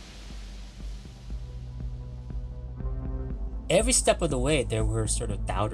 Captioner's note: soundbite of waves crashing